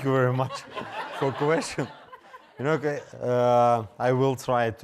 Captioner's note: audience laughing